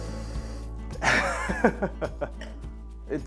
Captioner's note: chuckles